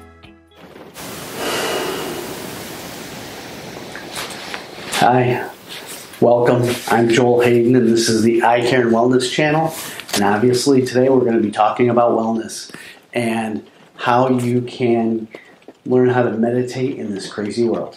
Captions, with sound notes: (rain pattering) Hi, welcome. I'm Joel Hayden and this is the Eye Care and Wellness Channel. And obviously today, we're gonna to be talking about wellness, and how you can learn how to meditate in this crazy world.